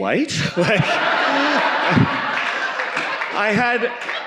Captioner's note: audience laughing